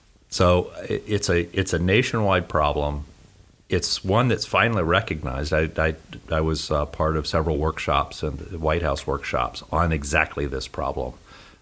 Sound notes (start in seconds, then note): none